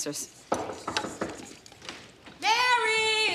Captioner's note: knocking on door